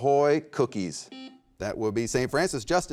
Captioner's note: buzzer beeps